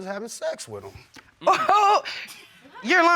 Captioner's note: laughs